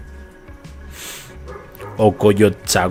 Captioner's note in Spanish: resoplido